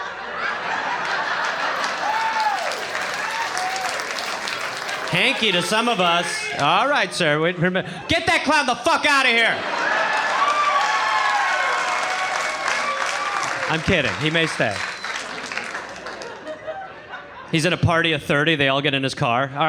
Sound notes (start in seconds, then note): 0.0 audience laughs and applauds; 10.1 audience cheers